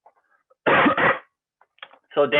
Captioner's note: coughs